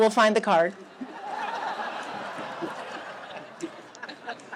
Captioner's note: laughter